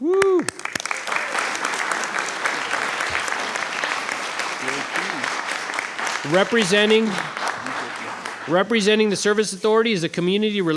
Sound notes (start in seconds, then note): 2.2 applause